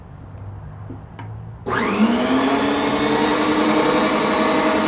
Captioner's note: machine whirring